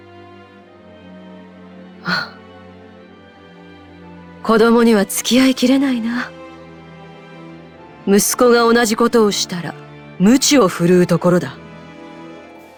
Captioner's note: sigh